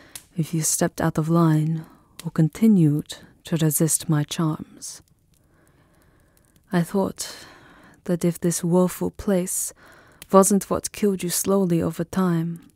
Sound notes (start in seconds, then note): none